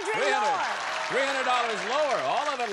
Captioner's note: applause